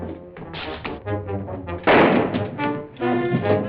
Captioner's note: gunshot